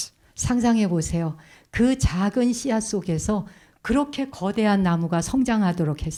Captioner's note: speaking in Korean